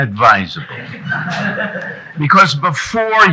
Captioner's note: audience chuckling